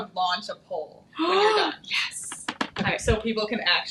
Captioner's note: gasping